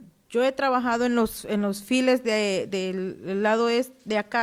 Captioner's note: speaking Spanish